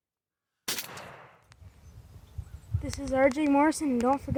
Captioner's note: gun firing